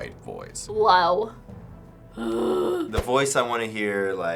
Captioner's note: low-pitched groan